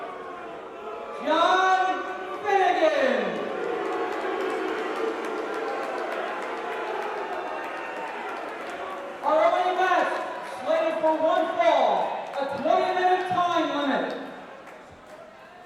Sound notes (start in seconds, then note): 4.4 crowd cheering; 14.3 crowd chatter